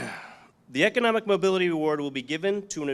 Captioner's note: clears throat